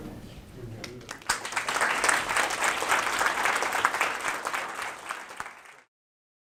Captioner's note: applause